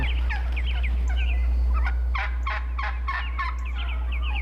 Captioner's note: birds vocalizing